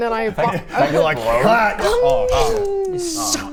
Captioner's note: slurp